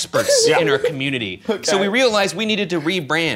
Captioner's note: laughing